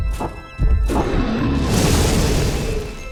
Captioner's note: dragon roars